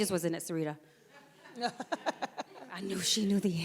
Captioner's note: audience laughs